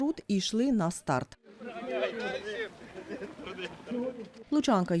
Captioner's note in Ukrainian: Голоси учасників